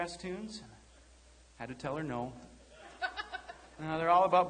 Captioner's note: laughing